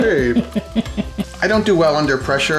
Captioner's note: woman laughs